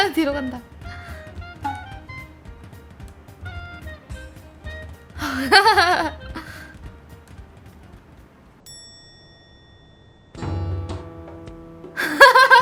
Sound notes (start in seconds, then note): 2.1 a prudent footsteps